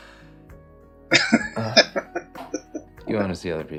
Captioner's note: laughing